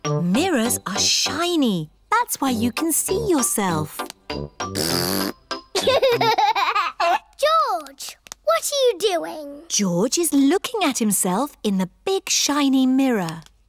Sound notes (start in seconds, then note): 4.7 blows raspberry; 5.7 giggles